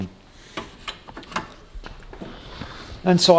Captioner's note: lever clinking